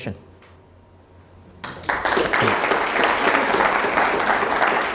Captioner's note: applauding